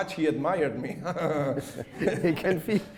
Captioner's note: chuckles